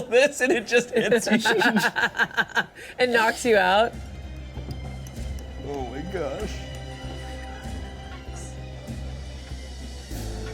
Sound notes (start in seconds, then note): 0.9 laughs; 7.3 suspenseful music